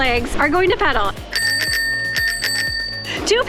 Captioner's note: bicycle bell rings